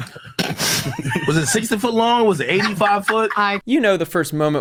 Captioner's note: people laughing